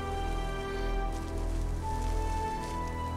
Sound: rope rustle

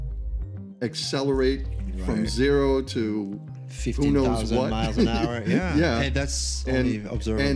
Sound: laughter

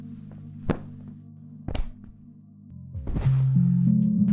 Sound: blanket rustles; doll thuds and clatters; ominous music continues

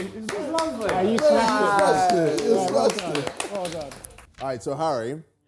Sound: clapping

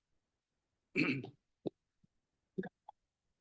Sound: clears throat

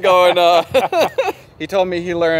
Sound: laughing

